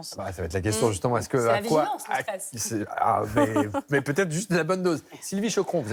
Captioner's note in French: rires